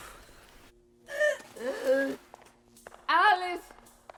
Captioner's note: Alice retching; footsteps tapping